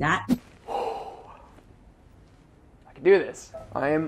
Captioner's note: exhales sharply